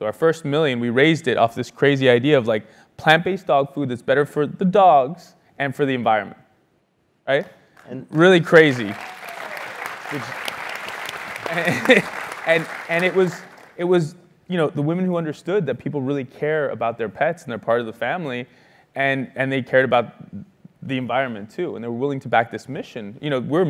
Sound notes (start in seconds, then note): 7.7 applause; 11.2 laugh